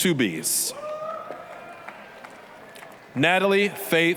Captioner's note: applause, cheering